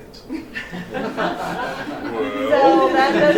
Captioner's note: laughter